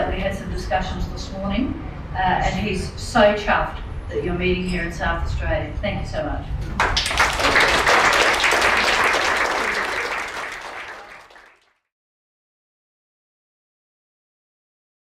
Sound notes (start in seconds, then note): 6.6 clapping